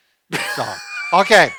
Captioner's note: laughing